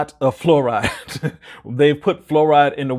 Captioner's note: chuckling